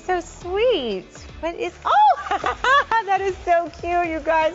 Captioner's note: laughs